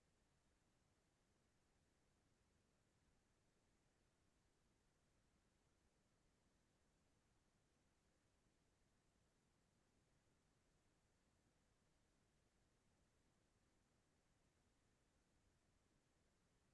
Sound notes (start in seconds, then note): none